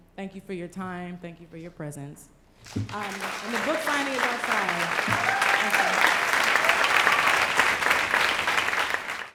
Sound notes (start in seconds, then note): 2.8 applause; 5.2 applause